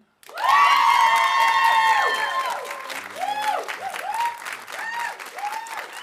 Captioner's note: audience applauding; audience cheering